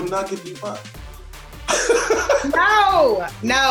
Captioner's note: laughs